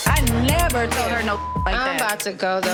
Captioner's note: beep